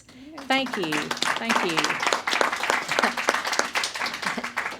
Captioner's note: applause